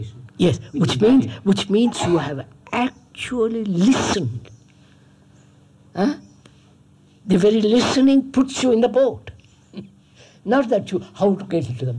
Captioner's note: laughs